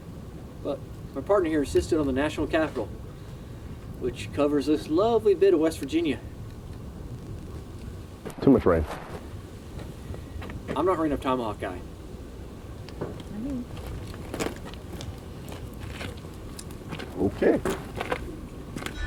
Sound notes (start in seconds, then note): 13.6 ambient footsteps